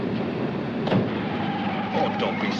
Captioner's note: whistle trilling; tires screeching